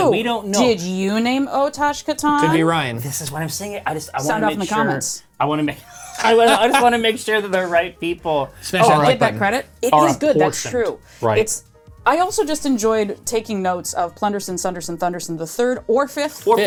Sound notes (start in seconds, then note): 5.8 laughter